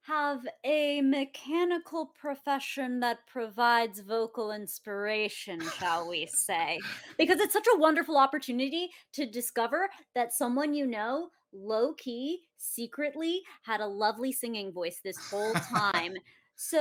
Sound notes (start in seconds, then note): 5.6 laughs; 15.2 laughs